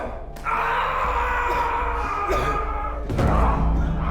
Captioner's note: yelling